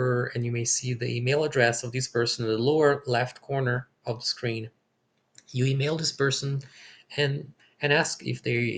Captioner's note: click